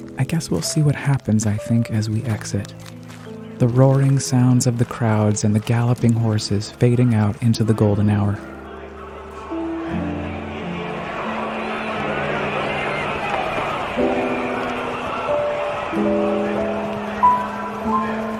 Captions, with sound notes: I guess we'll see what happens, I think, as we exit, the roaring sounds of the crowds and the galloping horses fading out into the golden hour. (crowd chattering) (gentle piano music)